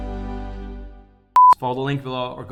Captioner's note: beeping